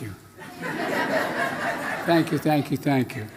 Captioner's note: laughter